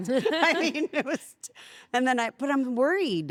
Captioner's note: laugh